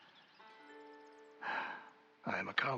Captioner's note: sigh